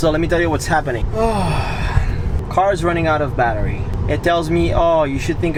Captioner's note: sighing